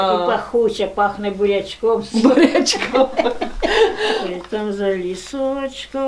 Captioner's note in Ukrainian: сміється